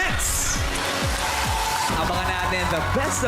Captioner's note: applause